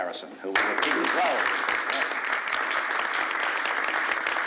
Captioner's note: crowd applauds